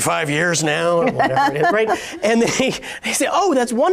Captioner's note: laughs